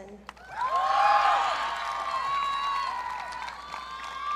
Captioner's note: audience cheering